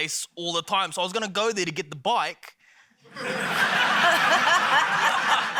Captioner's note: laughter